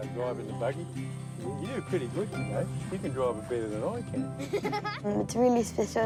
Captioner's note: laughs